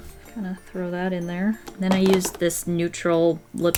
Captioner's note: none